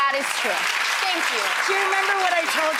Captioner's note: audience applauds